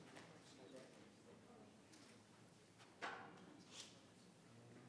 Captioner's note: people chattering